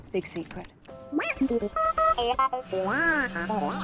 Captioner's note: more beeps